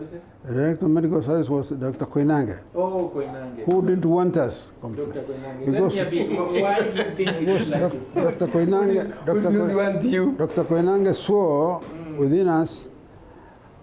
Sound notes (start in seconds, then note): 5.8 laughing